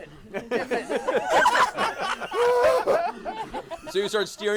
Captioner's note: laughter